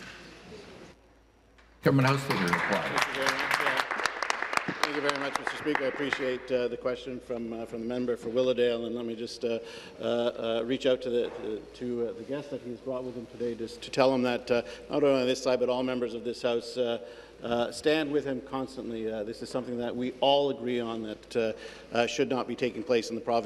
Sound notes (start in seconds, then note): 7.3 applause